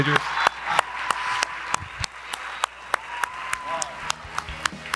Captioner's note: audience applauding and cheering